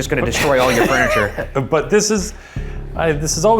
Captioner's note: laughing